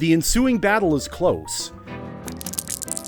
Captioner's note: marbles clacking